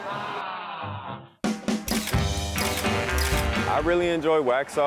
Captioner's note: upbeat rock music; camera clicking